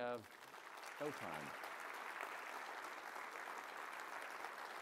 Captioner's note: applause